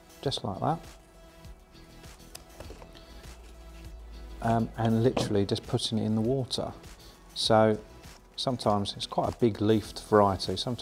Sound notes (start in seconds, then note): 1.7 soft upbeat music; 2.3 scissors snipping